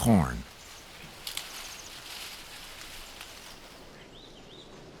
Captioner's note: husk cracking